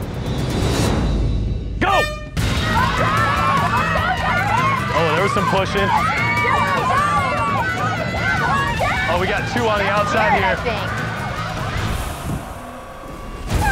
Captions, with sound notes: Go! (horn blows) (cheering) - Oh, there was some pushing. (cheering) Oh we got two on the outside here. (cheering)